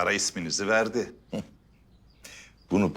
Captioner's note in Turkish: Gülme sesi